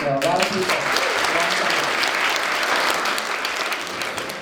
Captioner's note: crowd applauding